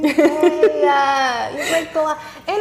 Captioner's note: laughing